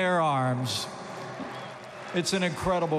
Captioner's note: applause